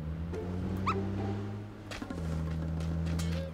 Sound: the sound of a car again!

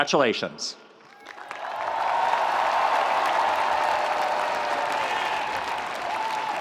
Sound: audience applauding; audience cheering

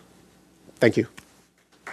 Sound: applause

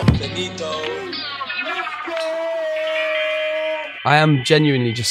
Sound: shouting

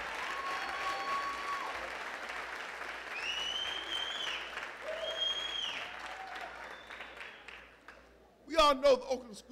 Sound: applause

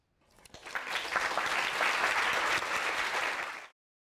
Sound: applause

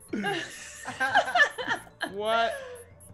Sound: laugh

